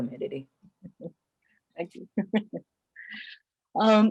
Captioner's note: chuckles